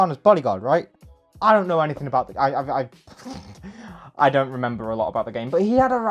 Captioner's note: small laugh